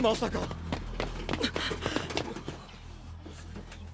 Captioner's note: HANGE, MOBLIT gasp